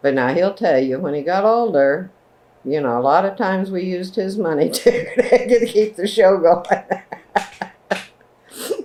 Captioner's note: laughs